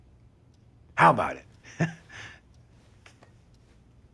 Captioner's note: laughs